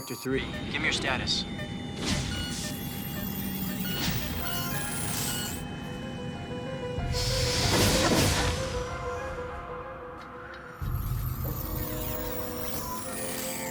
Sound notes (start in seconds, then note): 1.6 alarm; 2.4 bell; 3.6 alarm; 10.2 sing